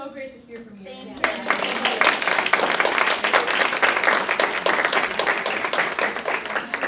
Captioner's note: audience clapping